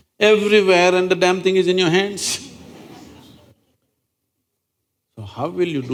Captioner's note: laughter